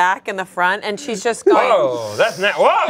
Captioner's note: sniffs